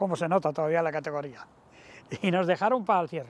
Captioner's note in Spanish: Ríe